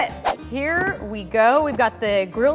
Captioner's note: whooshing